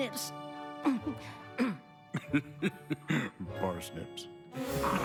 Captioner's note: stifles giggle; chuckles